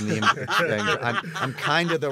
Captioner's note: laughter